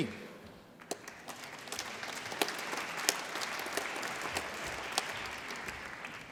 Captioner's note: applause